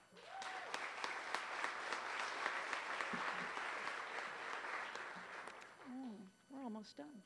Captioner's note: applause